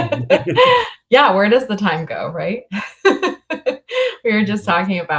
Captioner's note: laughs